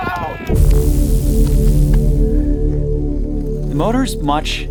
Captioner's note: motor humming